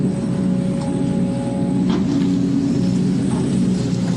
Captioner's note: MORE digging noises